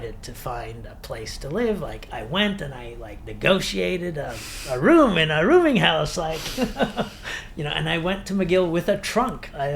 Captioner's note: laughs